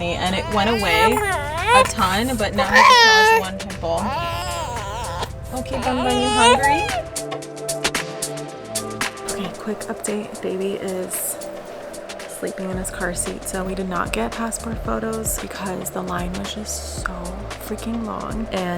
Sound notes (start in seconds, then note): 3.8 baby crying; 7.4 upbeat music